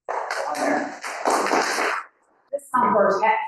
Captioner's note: audience applauding